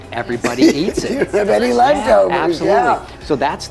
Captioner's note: laughing